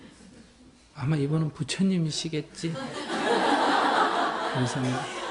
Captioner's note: audience Laughter